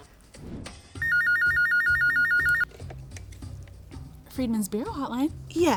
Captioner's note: telephone ringing